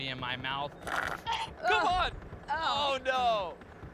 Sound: gagging

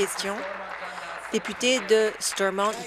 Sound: applause

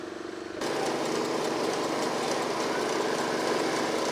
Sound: engine roaring

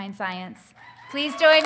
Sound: audience cheering; audience applauding

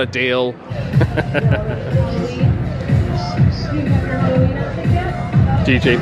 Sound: upbeat music; chuckles

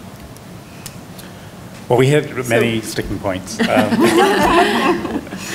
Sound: laughter

